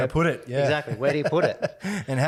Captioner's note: laughs